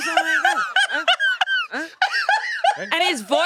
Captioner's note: laughs